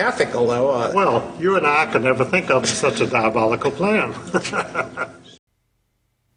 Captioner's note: laughs